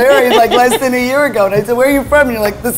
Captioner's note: laughing